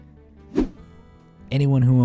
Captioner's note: air whooshing